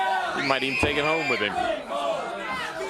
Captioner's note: crowd chatter